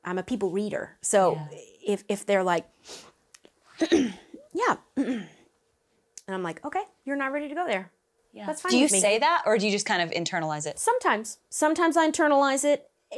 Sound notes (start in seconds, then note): 2.8 sniffles; 5.0 clears throat